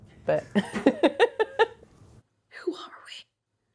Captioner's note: Emily laughing